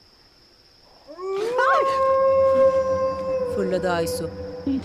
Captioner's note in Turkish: Kurt uluma sesi